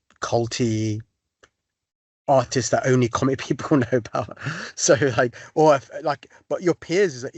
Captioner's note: laughter